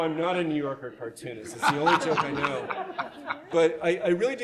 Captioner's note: audience laughs